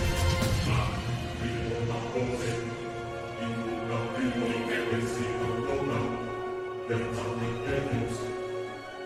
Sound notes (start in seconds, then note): 1.5 chanting